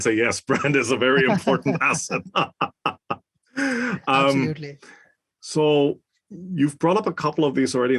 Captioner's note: laugh